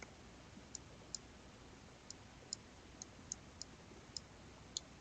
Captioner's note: mouse clicking